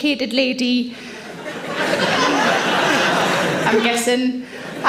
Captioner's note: audience laughs